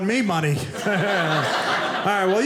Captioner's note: audience laughing